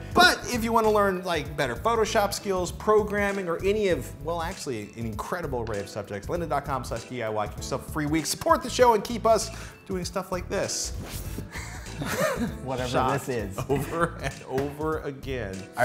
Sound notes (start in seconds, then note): 11.5 laughter